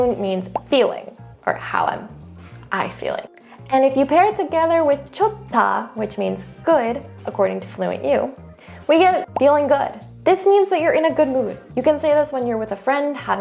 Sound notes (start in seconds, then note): 0.0 speaks in Korean; 0.5 bubble bursting; 5.1 speaking in Korean; 9.2 bubble popping